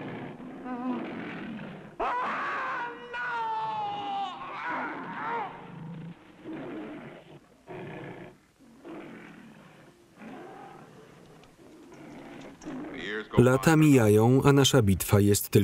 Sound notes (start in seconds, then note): 2.0 screaming; 5.0 lions growling